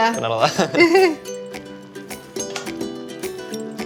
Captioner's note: both laugh